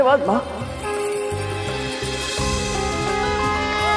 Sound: conch blows

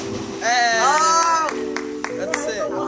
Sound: boys shout and clap

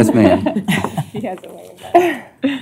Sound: laughter

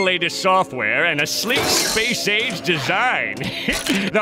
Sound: chuckles

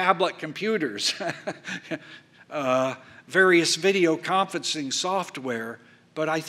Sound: laughs

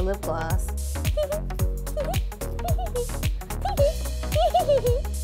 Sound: high pitched laughing

